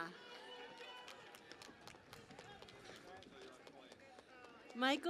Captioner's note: cheering and Applause